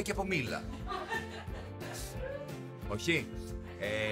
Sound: laughs

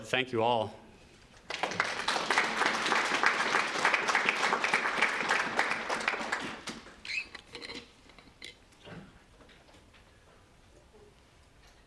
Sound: applause

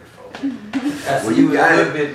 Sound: laugh

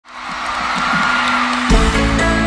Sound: applause

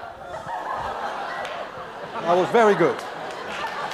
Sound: class laughs; class laughs and applauds; applause

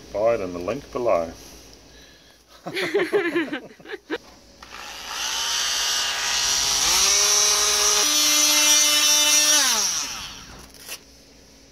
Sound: laughs

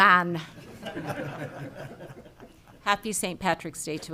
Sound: people laughing

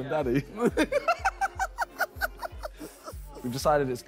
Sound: both laughing

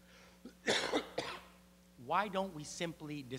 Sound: <i>Coughs</i>

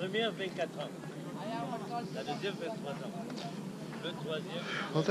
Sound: locals talking

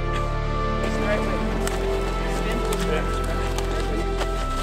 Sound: chatting

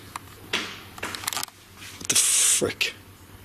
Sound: bang

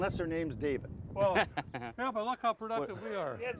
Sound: laughs

